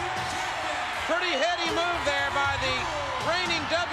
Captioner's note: spectators cheering